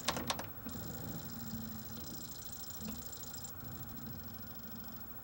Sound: more high-pitched, warbley seeking sounds

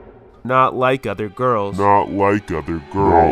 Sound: echoing; voice deepening

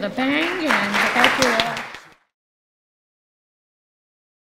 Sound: clapping

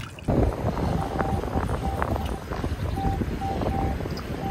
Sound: beep beep

